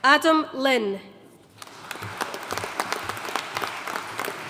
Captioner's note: audience applauding